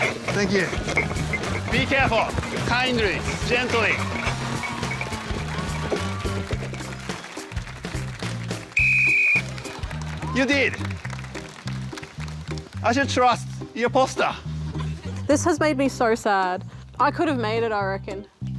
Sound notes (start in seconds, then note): 4.6 applause; 8.7 blows whistle